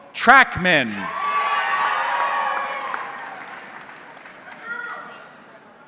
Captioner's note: audience cheering